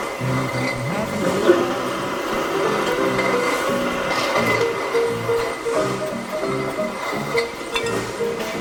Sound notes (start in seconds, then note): 2.6 machinery grinding and bottles clinking